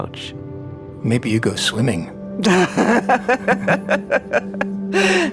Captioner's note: laughing